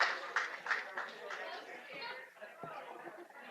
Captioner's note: applause